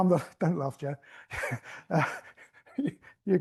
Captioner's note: laughs